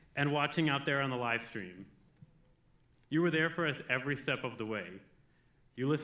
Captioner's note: none